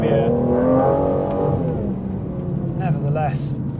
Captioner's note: car humming